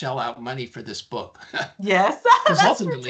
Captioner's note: laughing; chuckling